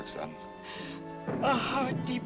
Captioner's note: sobs